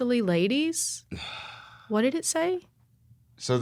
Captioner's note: sighs